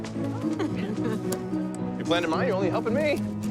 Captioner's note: laughing